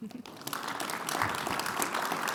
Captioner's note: audience applauding